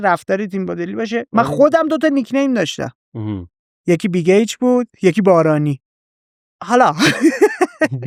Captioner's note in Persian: خنده